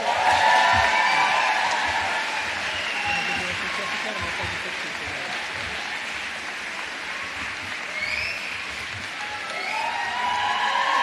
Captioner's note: cheers and applause